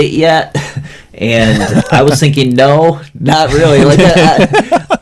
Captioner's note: laughs; laughs